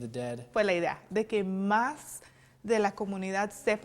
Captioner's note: non-english speech